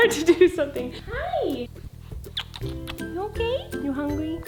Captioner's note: smooching